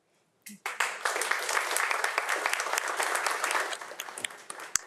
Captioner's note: audience applauds